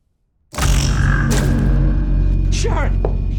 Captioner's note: loud buzz